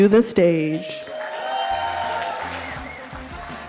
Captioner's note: audience applauding